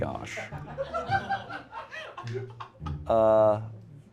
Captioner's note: everyone laughs